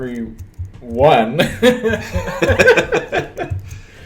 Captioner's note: laughter